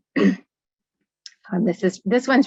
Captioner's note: clearing throat